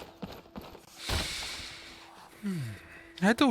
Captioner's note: deep breath